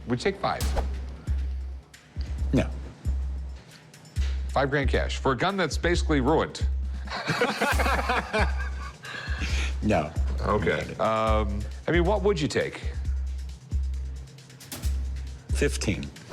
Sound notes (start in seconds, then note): 7.0 laughter